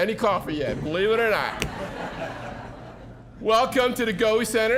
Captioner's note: audience laughing